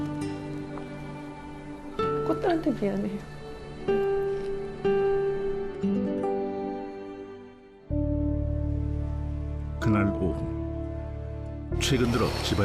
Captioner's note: voiceover